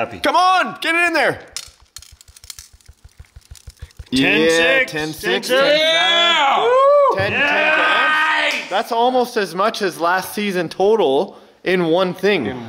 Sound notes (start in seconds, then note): 1.4 gold clattering; 1.6 bowl thudding